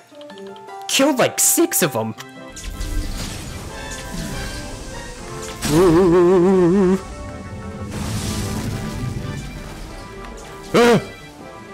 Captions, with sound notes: I killed, like, six of them! (ghost noises) (caveman grunt)